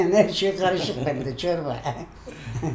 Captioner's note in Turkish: Gülüşme sesleri